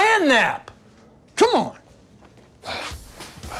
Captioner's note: sighs